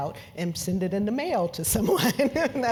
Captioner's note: laugh